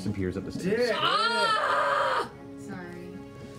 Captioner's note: screams in frustration